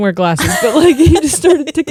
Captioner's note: laughing